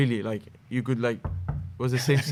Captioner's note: knocking